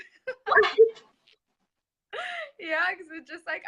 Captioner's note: laugh